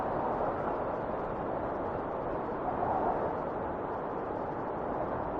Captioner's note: wind whistling continues